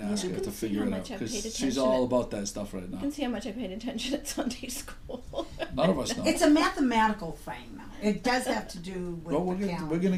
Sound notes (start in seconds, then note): 0.0 voiceover; 3.1 voiceover; 4.8 laughs; 5.8 voiceover; 10.0 voiceover